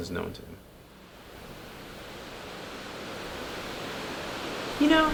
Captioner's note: sounds of water swell